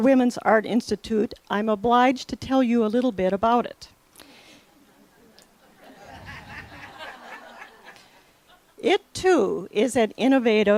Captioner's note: laughter